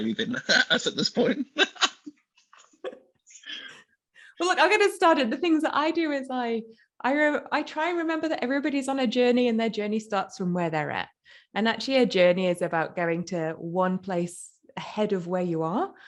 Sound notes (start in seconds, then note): 2.0 laughs